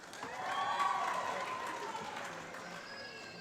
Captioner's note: applause